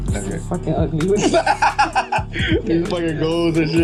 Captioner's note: laughing